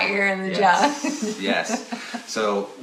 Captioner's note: laughs